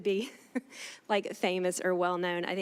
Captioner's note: laughing